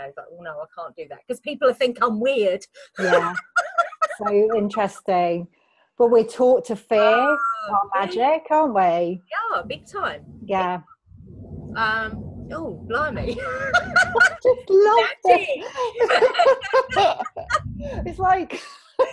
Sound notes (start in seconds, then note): 2.9 laughs; 11.0 distant thunder rumbling; 13.2 laughing